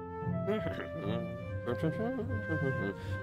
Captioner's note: humming